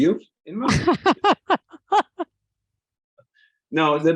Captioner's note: laughing